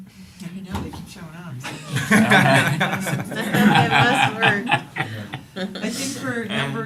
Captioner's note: laughter